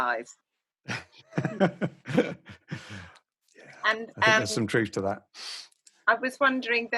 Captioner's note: laughs